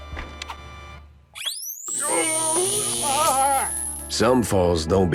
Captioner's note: electroshock